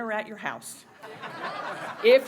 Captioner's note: laughter